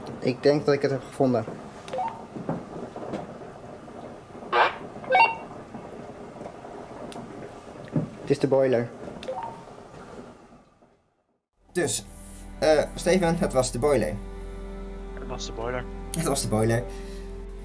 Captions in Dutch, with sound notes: Ik denk dat ik het heb gevonden! (walkie-talkie geluid) Ja? (walkie-talkie geluid) Het is de boiler! Dus, Steven... het was de boiler! Het was de boiler